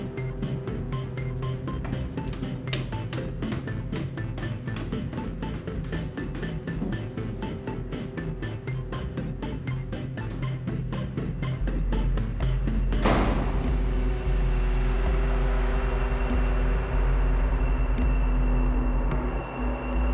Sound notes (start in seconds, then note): 13.0 door slams; 17.4 traffic din